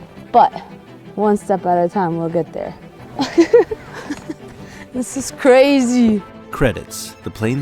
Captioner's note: laughs